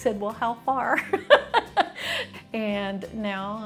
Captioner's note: laughing